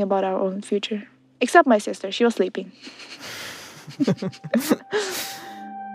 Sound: both laugh

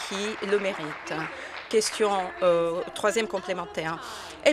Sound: applause

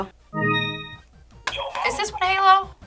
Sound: digital chime; buzzer

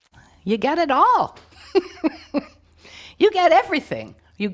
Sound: chuckling

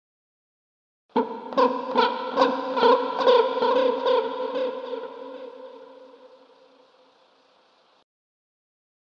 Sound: birds singing

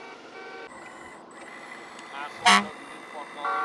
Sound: car honking

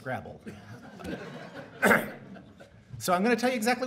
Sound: audience laughing

